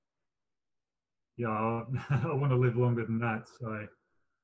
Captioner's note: laughs